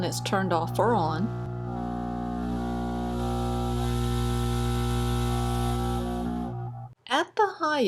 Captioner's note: noise from air assist running